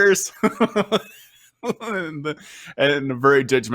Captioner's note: laughs